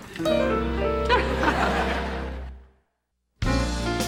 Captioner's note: laughter